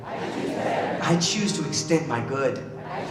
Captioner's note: crowd repeat